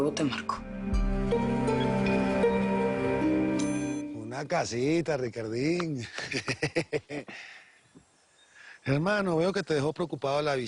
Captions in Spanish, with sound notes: LUEGO TE MARCO. - UNA CASITA, RICARDIN. [Risas] HERMANO, VEO QUE TE DEJO PREOCUPADO